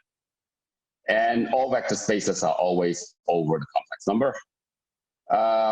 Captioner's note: murmur